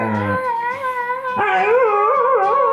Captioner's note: River growling and howling; howling